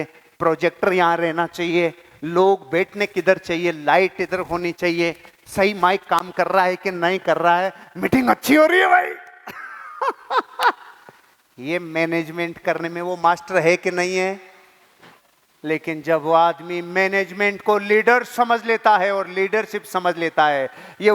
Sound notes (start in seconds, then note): 9.4 laughing